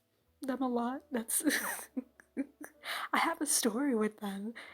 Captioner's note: chuckle